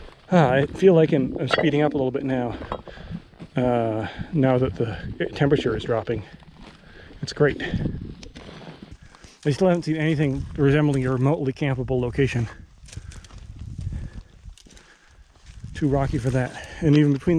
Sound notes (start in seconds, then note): 12.7 twigs rustling; 13.9 footsteps thumping